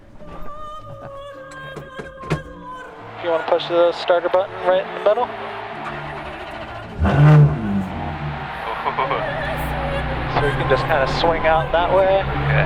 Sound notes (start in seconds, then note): 0.2 orchestral music; 5.8 car engine starts